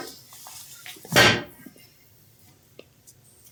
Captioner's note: BARDOLPH strikes stick on ground